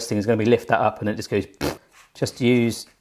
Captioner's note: blows raspberry